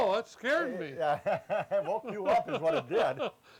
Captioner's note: laughs